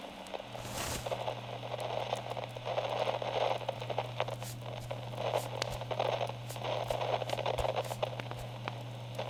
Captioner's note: tissue blotting